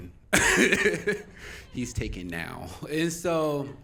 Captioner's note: laughing